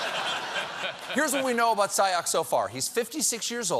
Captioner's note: laughter